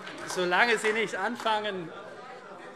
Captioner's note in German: Heiterkeit und Beifall